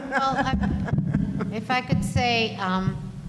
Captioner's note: laughing